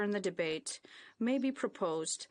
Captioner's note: speaking in French